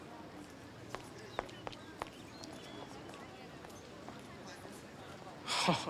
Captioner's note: students chattering